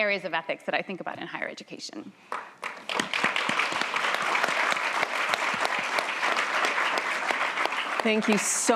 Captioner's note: applause